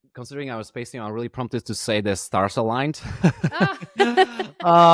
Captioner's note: laughing